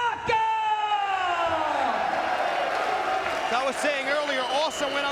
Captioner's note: crowd cheering